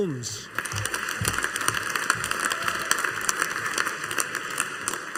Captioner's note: audience applauding